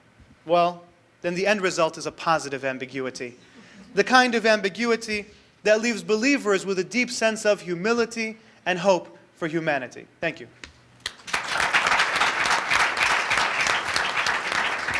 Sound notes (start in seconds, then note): 4.0 audience laughter; 11.0 audience applause